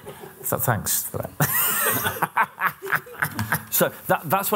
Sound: laughter

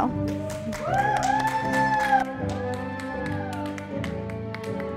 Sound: audience applauding

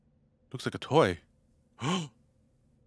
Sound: gasps

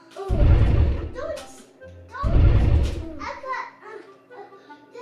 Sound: cool music; dinosaur roars

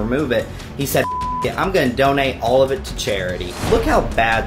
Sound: beep

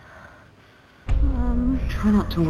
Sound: nervous Breathing

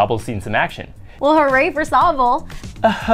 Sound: unintentionally sarcastic

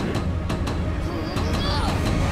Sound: grunting

